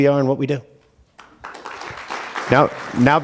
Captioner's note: applause